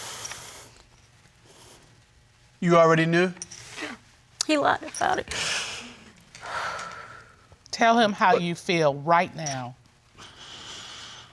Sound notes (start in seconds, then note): 0.7 breathing heavily; 6.3 exhales